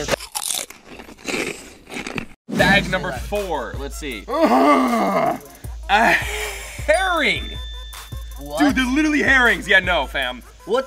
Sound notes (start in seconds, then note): 0.0 crunching; 4.3 grunting